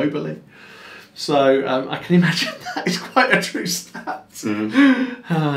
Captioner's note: chuckles